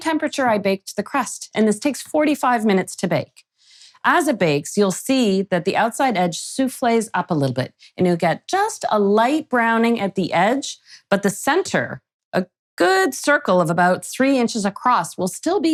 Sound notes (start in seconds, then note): none